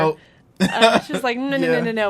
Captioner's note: laughs